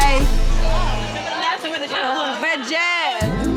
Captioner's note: group chattering